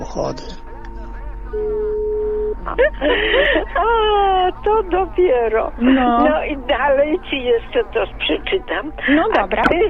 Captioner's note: both laughing